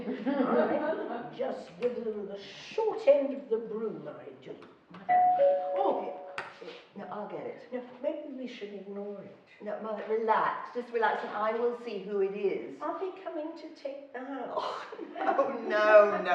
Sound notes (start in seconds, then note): 0.0 laughing; 5.1 doorbell ringing